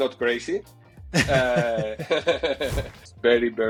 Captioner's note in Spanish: risas